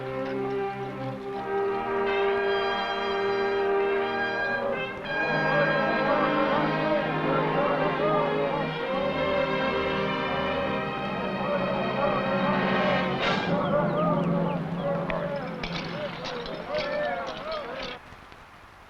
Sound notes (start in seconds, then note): 6.3 men chanting; 15.8 buckles rattling